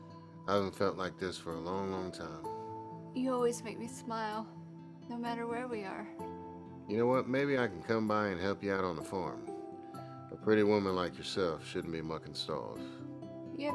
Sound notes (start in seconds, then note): none